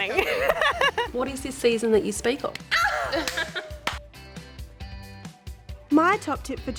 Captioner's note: laughs; laughs